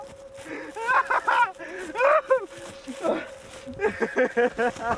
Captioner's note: laughing hysterically